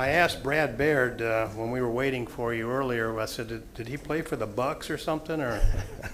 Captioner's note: laughter